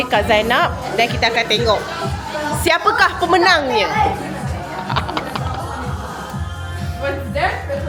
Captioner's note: laugh